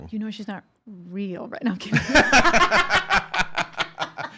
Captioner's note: both laughing